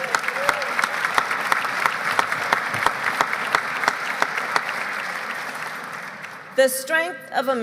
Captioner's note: applause